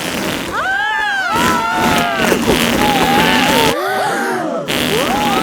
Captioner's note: both screaming; crowd gasps